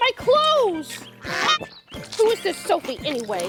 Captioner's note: Melba squawking